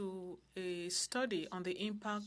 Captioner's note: speaking French